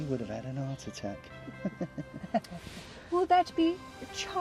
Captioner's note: laughing